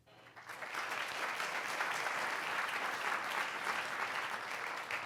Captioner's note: audience applauds